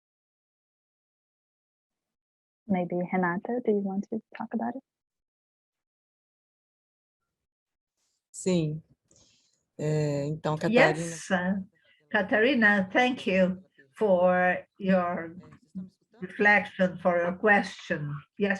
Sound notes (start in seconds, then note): 8.5 speaking in foreign language